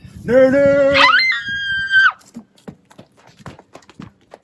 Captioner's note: COMMERCIAL ACTOR screams